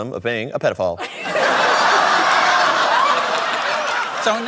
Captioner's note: laughter